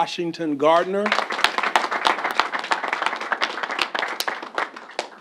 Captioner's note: applause